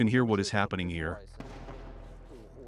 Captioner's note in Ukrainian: приліт артилерії